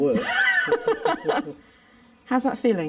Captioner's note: both laughing